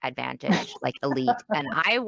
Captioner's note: laughs